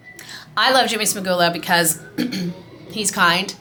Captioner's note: clears throat